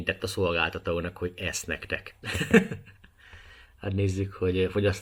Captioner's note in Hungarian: nevetés